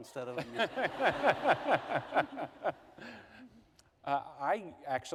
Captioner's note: laughter